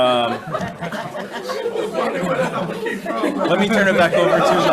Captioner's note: people laugh